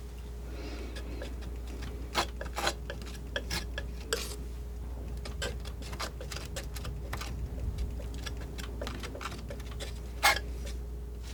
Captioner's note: crunching